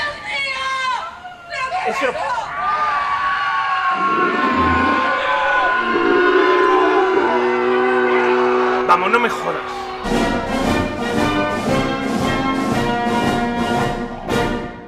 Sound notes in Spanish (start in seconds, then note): 0.3 mujer gritando; 2.8 Mucha gente gritando; 3.8 Gruñido acercándose